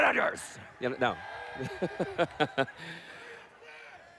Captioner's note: cheering